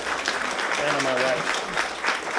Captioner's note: applause